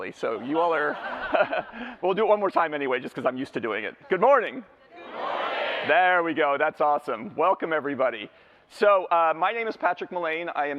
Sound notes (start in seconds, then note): 0.7 laughter